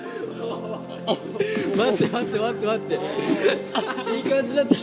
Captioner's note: suddenly crying